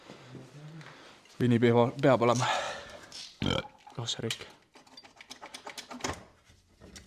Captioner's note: burp